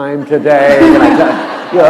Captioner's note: laughter